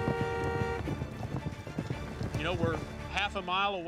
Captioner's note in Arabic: صوت أبواق السيارات; ضربات حوافر